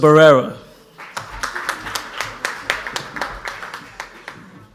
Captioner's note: audience applauds